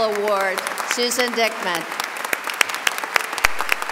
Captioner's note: applause